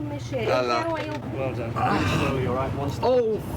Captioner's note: Stephen groans